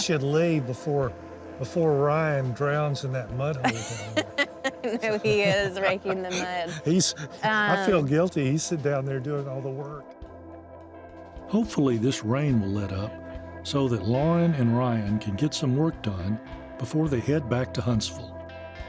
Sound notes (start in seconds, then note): 3.6 laughing together